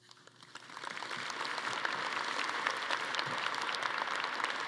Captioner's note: everyone applauding